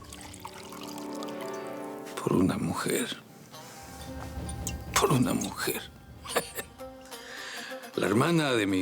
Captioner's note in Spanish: Ruido al verter